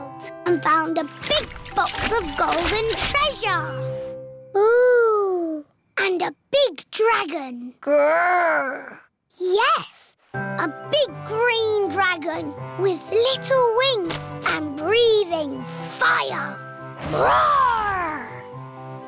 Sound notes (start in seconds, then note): none